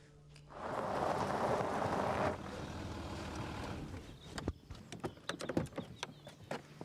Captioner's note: engine rumbling; birds chirping